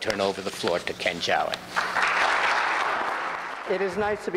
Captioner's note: audience clapping